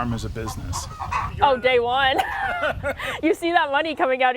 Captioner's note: laughs